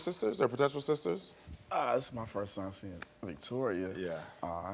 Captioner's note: none